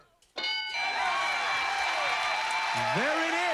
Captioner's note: cheers and applause